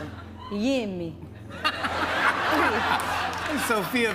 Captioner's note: laughter